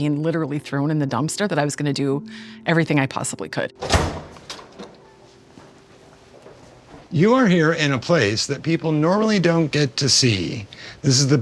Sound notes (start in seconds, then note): 3.8 door clacking; 4.1 footsteps clopping